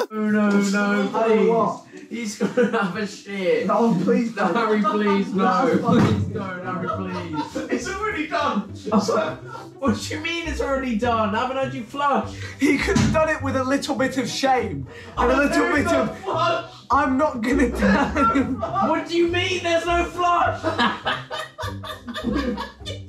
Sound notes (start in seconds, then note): 0.0 all laughing; 17.4 laughing; 20.6 all laughing